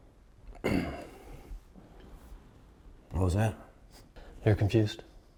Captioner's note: clears throat